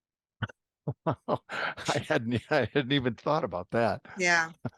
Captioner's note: laugh